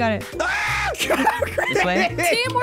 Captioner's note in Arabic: يصرخ; يضحك